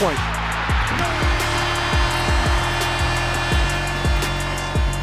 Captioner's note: horn blares